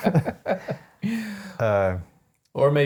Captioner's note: laughing